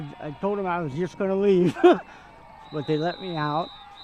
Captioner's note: laughs